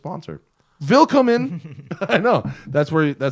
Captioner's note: laughter